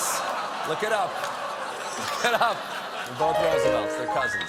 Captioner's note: laughter